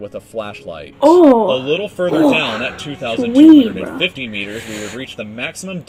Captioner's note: exclaims